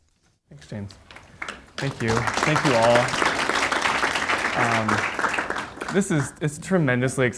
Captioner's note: audience applauds